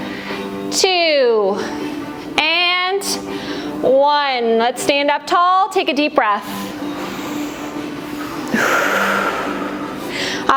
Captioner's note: breath